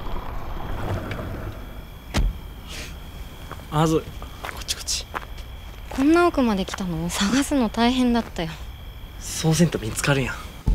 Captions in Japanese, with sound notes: （車が止まる音） （車のドアの音） あーずー、こっちこっち こんな奥まで来たの?探すの大変だったよ そうせんと、見つかるやん